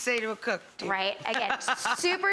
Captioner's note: laughing